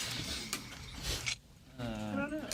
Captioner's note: students murmur